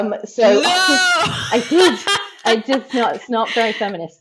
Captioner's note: laughs